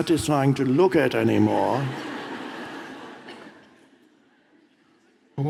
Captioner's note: audience laughs